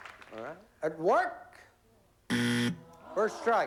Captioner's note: buzzer